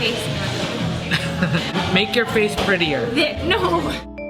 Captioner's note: laughs